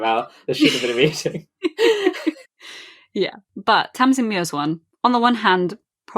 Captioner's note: laughs